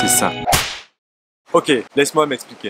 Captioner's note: whip